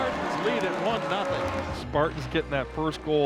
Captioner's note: crowd cheering